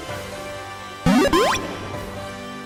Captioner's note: Pokédex Loads